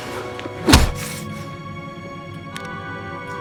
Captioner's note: smacking